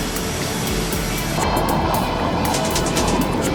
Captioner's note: jet engine; roaring jet engine; rhythmic clicking